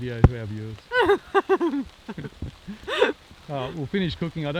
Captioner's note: laughing